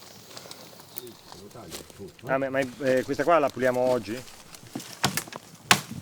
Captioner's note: speaking Italian